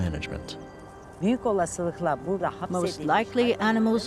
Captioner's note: speaking Turkish